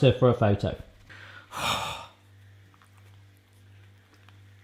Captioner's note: sigh